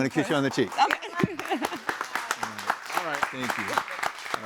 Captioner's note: all applauding